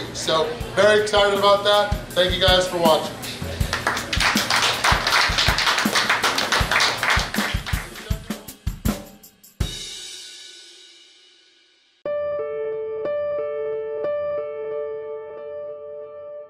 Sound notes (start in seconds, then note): 3.6 clapping; 3.7 soft rock music